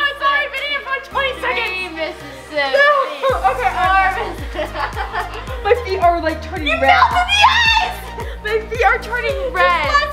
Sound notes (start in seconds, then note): 4.9 laughs